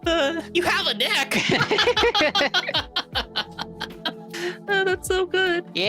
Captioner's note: laughing